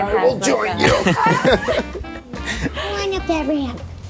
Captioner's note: people laugh